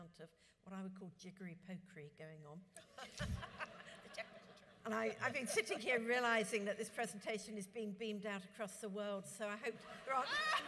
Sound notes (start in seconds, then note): 3.1 audience laughs; 10.0 audience laughs